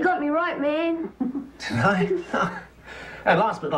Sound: laughs

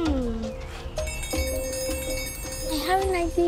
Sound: rings

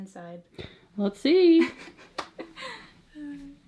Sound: laughs

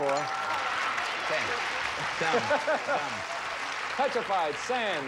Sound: audience cheering

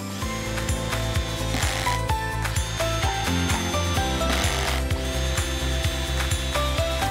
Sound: drill whirring; upbeat music

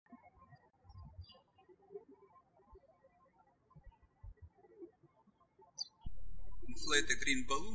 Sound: bird chirping

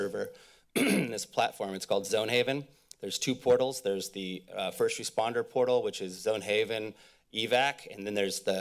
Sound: clears throat

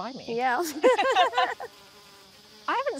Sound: both laugh

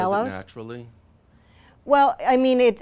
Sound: voiceover

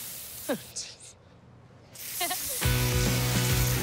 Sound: laughter

